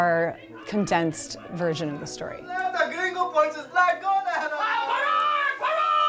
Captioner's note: actor speaking foreign language